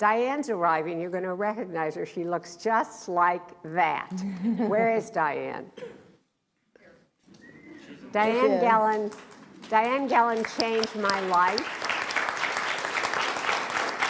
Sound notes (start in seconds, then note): 7.2 applauds